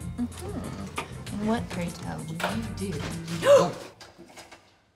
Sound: gasps

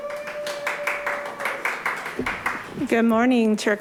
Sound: audience applauds

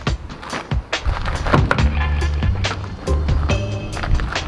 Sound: door clicks

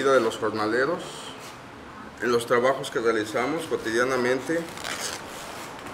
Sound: people tearing cloth apart; speaking in Spanish

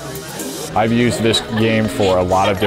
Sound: overlapping chattering

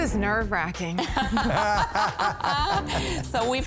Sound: laughter

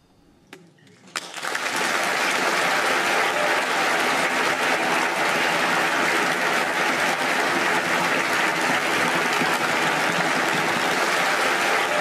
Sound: applause

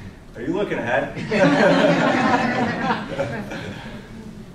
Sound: audience laughter; laughs

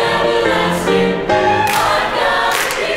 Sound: clapping

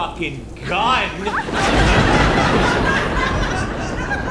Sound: thunder rumble

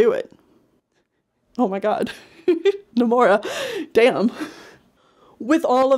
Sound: laughs

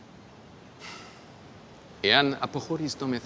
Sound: Themistocles sighs; Themistocles speaking in foreign language

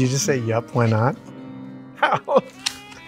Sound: laughter

